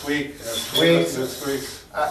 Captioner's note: pulley squeaks